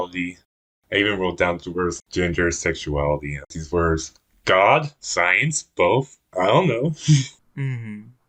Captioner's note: laughs